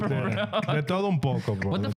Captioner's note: speaking In Foreign Language